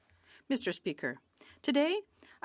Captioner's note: speaking French